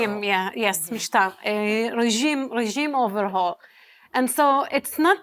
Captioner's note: hebrew